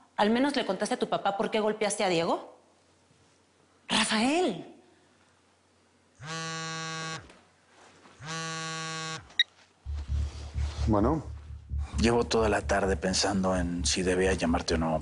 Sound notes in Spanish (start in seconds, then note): 6.2 Un celular vibra; 9.3 Bip